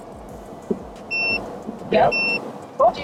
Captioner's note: sensor beeping